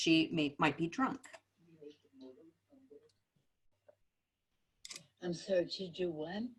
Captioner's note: silence